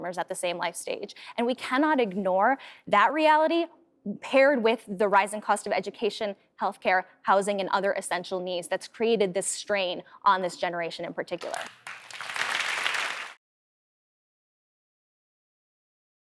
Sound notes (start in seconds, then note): 11.4 audience applauds